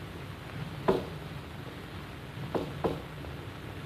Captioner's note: knocking rhythm